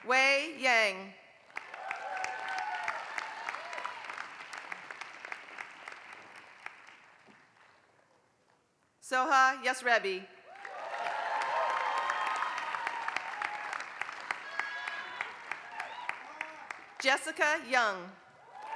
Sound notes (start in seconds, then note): 4.0 applause; 15.0 applause